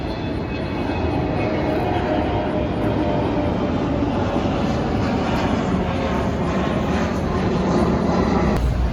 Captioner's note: airplane flying overhead